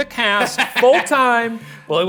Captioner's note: laughing